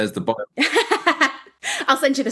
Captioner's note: laughing